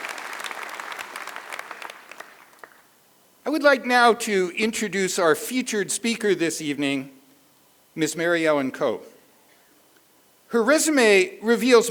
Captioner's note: applause